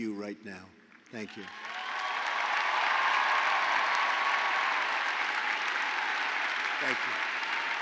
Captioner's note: applause